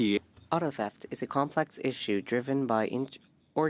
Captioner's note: speaking French